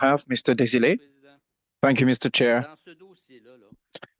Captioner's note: speaking French